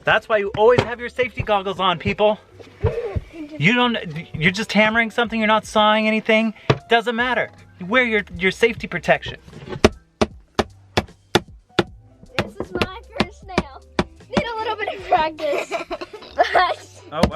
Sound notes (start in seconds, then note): 9.6 hammer thudding